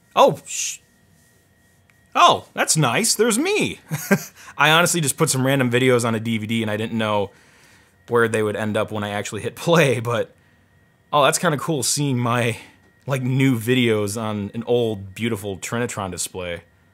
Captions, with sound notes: Oh! Oh, that's nice, there's me. (chuckles) I honestly just put some random videos on a DVD and I didn't know where they would end up when I actually hit play. But that's kinda cool, seeing my new videos on an old, beautiful Trinitron display.